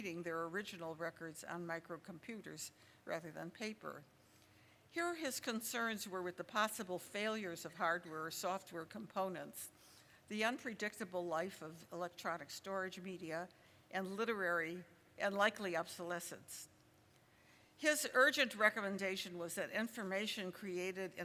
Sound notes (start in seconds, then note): none